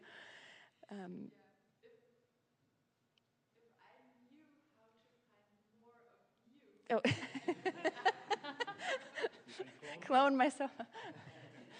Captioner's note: laughs